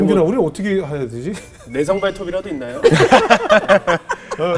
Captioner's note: laughing